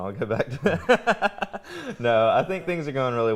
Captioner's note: laughs